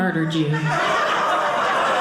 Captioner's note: audience laughing